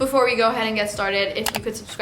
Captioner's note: mouse click